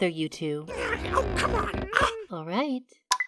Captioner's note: goo whines